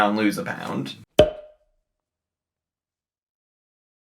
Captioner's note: screen pops